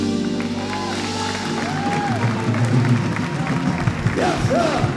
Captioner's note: audience cheers and applauds